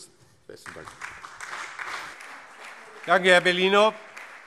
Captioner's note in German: Beifall CDU, BÜNDNIS 90/DIE GRÜNEN, SPD und vereinzelt Freie Demokraten